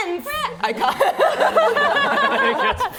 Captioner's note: laughing